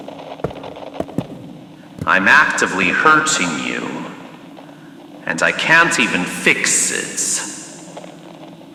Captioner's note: they stop walking fx